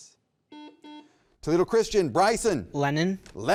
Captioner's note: button beeping